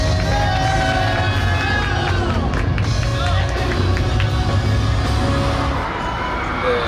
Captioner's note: the staff cheer at incredible performance